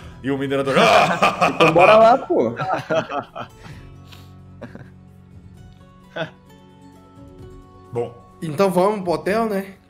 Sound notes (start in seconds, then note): 0.6 laughs hardly; 3.4 laughs